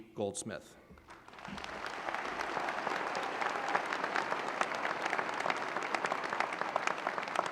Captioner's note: applause